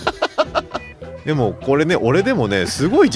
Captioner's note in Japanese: 笑い